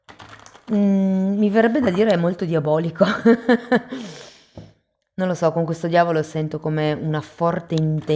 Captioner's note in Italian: risate